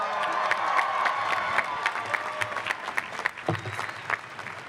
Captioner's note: cheering and clapping